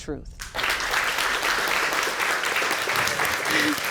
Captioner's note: applause